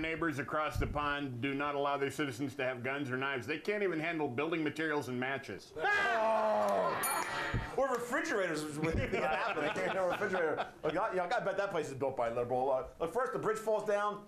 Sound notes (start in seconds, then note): 7.0 bell rings